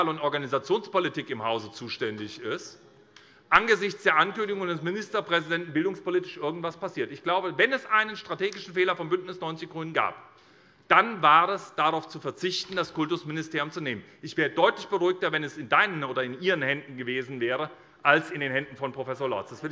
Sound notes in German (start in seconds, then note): none